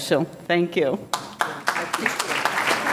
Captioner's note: audience clapping